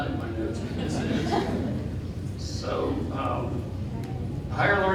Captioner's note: audience laughing